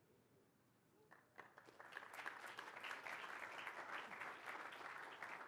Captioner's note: applause